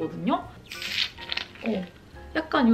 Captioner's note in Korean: 치익-!